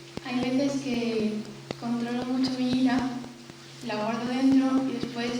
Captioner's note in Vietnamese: tiếng tây ban nha